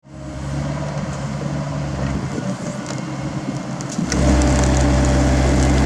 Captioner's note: heavy hydraulics